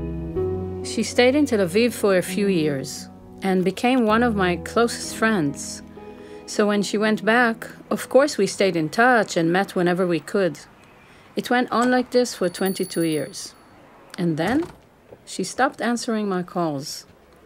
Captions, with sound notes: - She stayed in Tel Aviv for a few years and became one of my closest friends. So when she went back, of course we stayed in touch and met whenever we could. It went on like this for 22 years [bell rings] and then she stopped answering my calls.